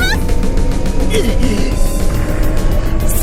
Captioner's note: pained groan